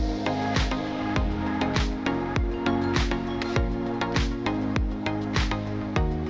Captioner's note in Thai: ปรบมือ